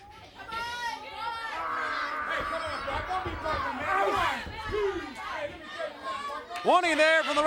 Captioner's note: crowd chatter